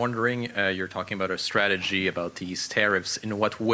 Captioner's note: speaking French